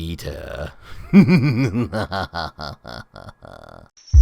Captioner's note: evil Laughing